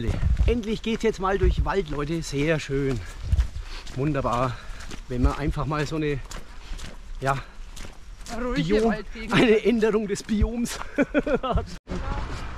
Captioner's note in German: lacht